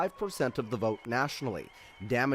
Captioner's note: applause